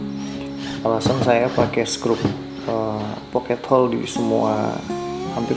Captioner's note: self tapping